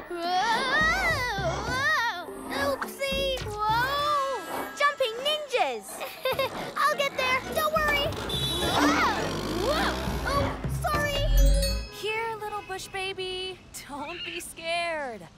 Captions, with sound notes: Woah! Oopsie! - Woah! - Jumping ninjas! (Nervous chuckle) I'll get there, don't worry! - (Honking) - Woah! Oh, sorry! Here, little bushbaby, don't be scared.